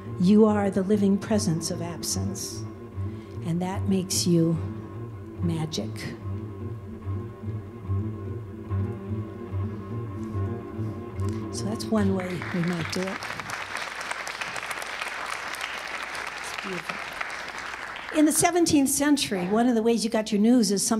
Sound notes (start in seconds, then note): 6.2 tense instrumental music; 12.0 audience applauding